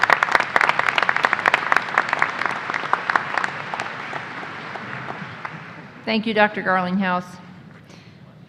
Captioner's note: applause